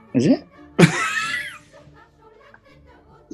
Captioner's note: laughing